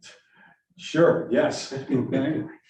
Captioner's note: chuckles